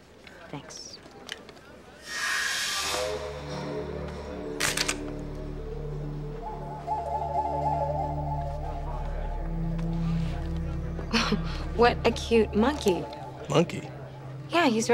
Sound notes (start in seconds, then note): 2.0 magical sound